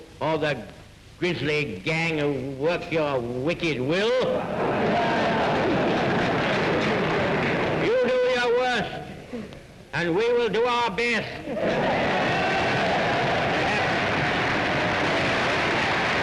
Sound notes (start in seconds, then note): 4.3 audience laughs and claps; 11.6 audience cheers and claps